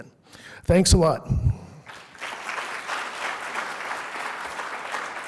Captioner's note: applause